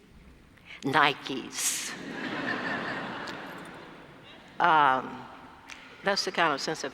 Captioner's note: laugh